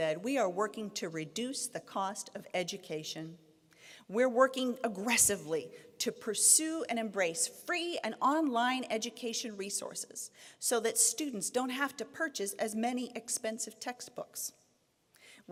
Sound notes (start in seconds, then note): none